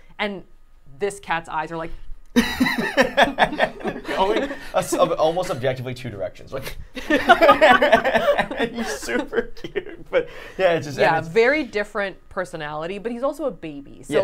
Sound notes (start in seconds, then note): 2.4 laughing; 6.9 laughing